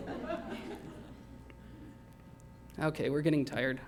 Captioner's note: laughter